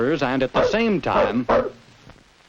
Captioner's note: barking